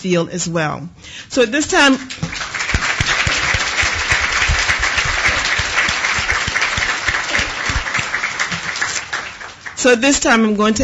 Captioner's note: applause